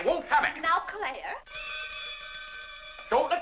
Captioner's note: bell rings